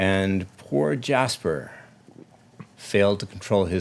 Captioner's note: none